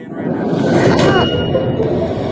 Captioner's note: whooshing, clanging